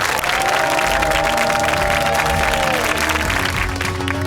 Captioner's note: cheers and applause